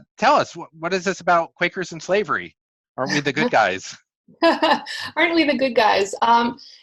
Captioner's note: laughs